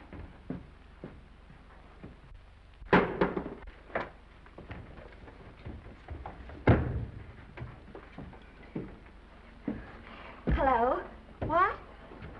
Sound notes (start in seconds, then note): 2.9 cover thuds; 3.5 footsteps approaching